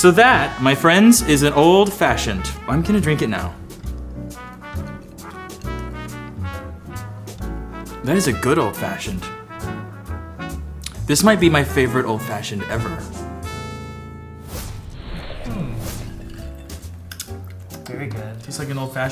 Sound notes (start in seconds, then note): 4.9 jazz music; 13.9 jazz music; 16.0 ice clinking in glasses